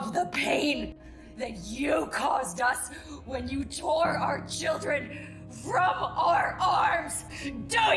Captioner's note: shouting